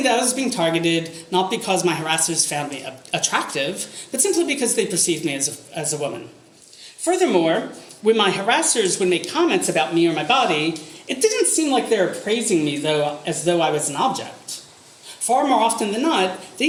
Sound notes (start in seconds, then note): none